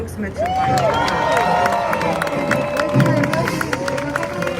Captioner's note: crowd cheers